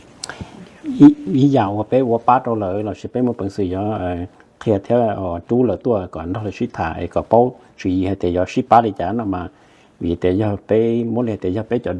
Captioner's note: Speaking in Hmong